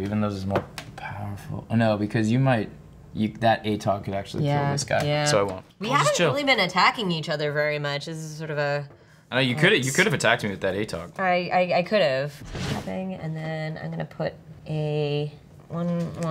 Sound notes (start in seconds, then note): none